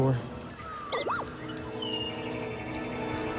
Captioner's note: bd-1 chirps